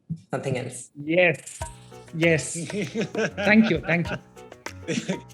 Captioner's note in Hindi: हंसते हुए